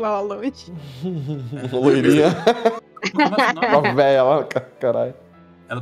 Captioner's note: laughs